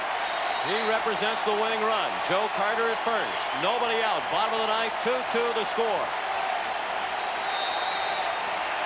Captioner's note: applause